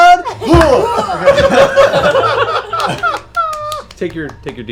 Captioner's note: laughter